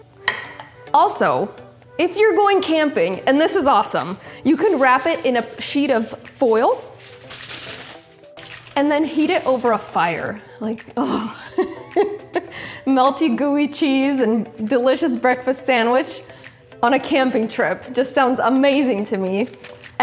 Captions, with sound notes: Also, if you're going camping, and this is awesome, you can wrap it in a sheet of foil and then heat it over a fire, like (groans). (laughs) Melty, gooey cheese, and delicious breakfast sandwich on a camping trip just sounds amazing to me,